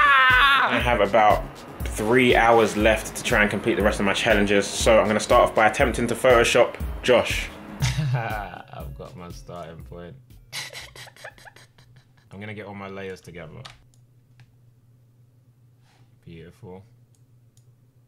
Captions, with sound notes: - I have about three hours left to try and compete the rest of my challenges. So, I'm gonna start off by attempting to photoshop Josh. I've got my start in Flint. (laughs) I'm going to get all my layers together. Beautiful.